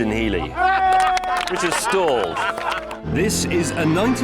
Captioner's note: laughing and cheering